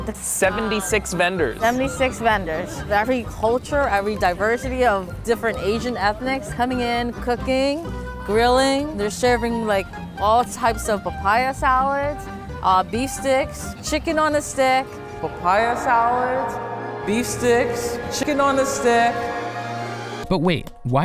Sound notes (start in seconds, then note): 15.2 angelic, echoing